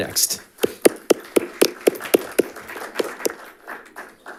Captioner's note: audience applauding